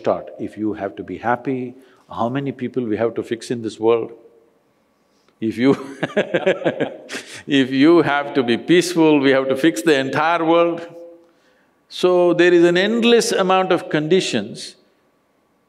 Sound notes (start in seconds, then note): 5.8 laughs